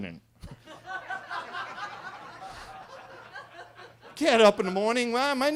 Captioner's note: attendees laughing